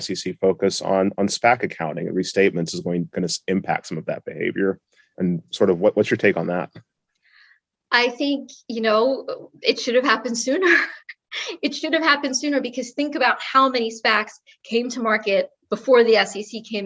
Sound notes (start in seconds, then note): 10.6 laugh